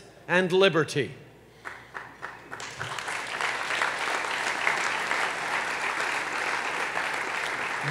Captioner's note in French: Applaudissements